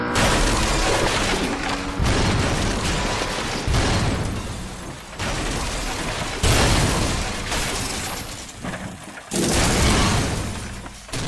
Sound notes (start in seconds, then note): 0.6 crashing and banging